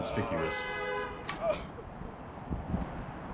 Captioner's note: grunts